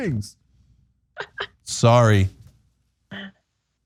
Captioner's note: laugh